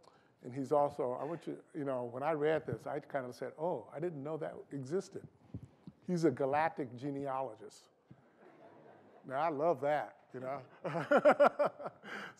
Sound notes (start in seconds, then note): 8.2 laughter